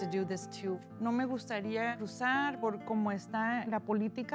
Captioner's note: speaking spanish